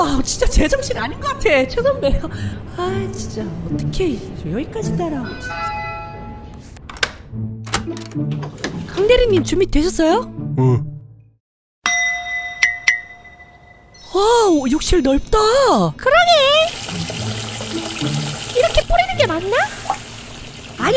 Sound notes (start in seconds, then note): 7.6 opens Door; 16.7 tap water pours